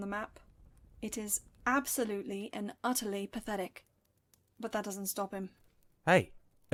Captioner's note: fire crackle